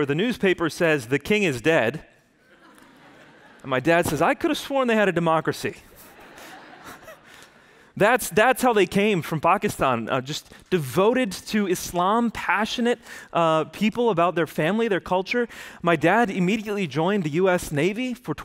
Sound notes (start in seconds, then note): 2.5 audience laughs